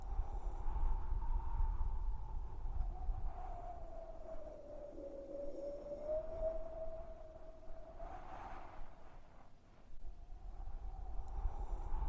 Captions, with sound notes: [wind blowing] Text reads: River cane is a plant that was once considered a vital survival and cultural resource to most Southeastern Native American tribes. [wind blowing] Its near endangerment threatens the existence of many cultural practices.